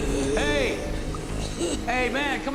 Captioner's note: gasping and rasping